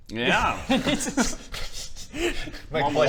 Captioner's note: giggles